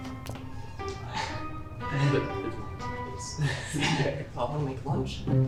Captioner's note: playful music; group chattering